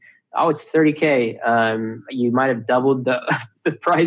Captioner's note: scoffs